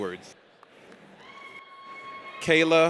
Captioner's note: audience cheers